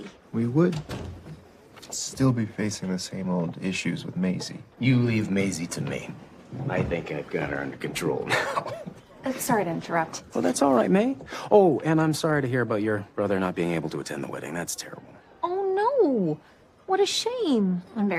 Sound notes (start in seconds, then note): 8.2 chuckles